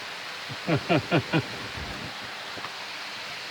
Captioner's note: laughs